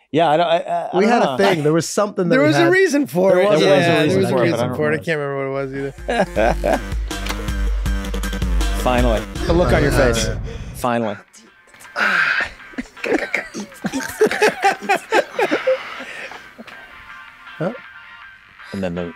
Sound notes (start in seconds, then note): 5.6 electronic music; 12.2 Dennis beatboxing; 12.7 everyone laughs